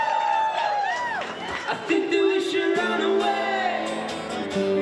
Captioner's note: crowd cheering